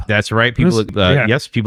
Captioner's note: uh